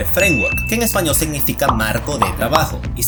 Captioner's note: in spanish